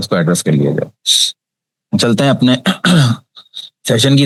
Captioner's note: sound of clearing throat